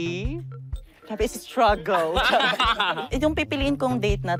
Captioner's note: laughs